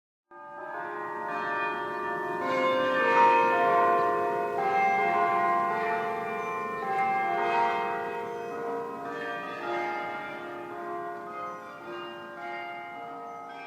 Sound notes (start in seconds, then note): 1.2 bell Sounds